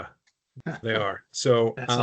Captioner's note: chuckling